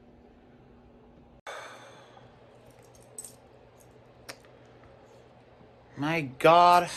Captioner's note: sighs